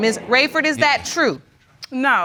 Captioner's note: audience exclaims